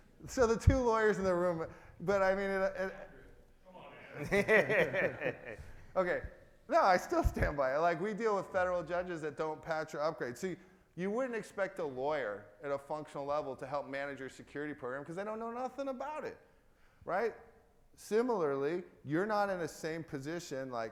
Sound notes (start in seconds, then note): 4.0 crowd laughing